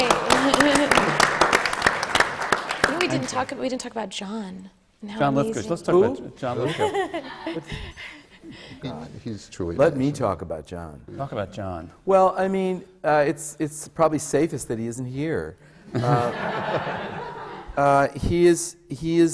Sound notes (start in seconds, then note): 0.0 leads the applause; 8.4 laughs; 15.9 laughter